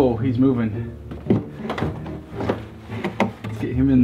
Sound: thuds

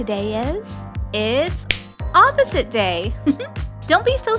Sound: laugh

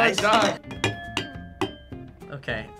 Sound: glasses chiming

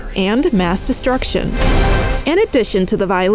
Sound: lightning sound

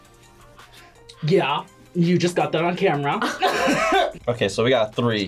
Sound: laughs

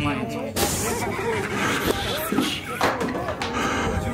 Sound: laughing

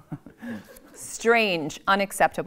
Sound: audience laughs

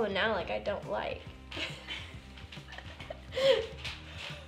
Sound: laughter

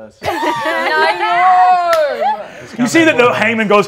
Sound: cast laughing

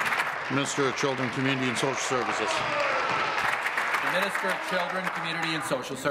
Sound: applause

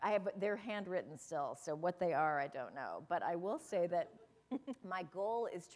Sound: chuckle

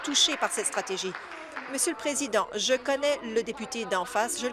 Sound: applause

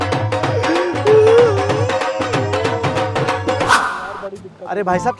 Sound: crying

